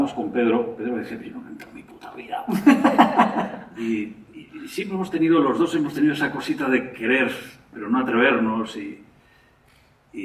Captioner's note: laughter